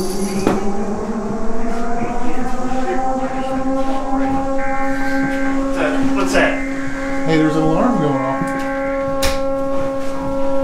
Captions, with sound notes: (sirens blaring) What's that, what's that? Hey, there's an alarm going off.